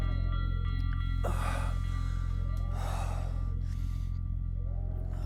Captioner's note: Malcolm breathing heavily